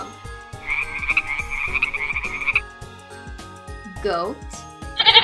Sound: frogs chirping

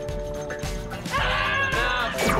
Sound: screaming

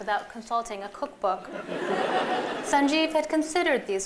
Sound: laughter

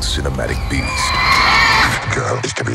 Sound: screaming

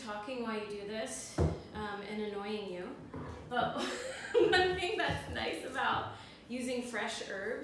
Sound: laugh

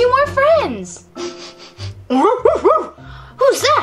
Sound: sniffs and barking

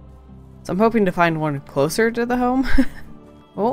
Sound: small laugh

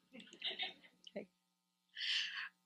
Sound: audience laughs

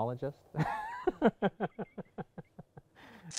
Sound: laughs

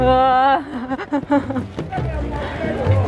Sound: nervous noises

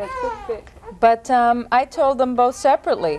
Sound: continues fussing

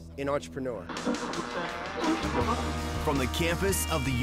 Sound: radio tuning

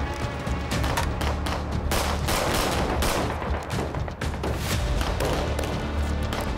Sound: clattering; gun banging

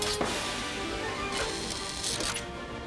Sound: whirring

